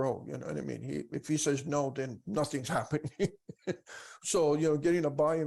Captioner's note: laughs